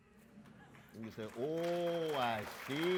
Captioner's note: audience applauds